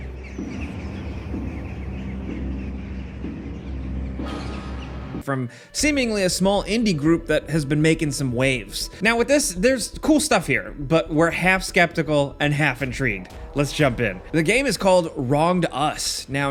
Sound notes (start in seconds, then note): 0.0 birds cawing